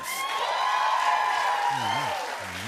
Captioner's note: cheers and applause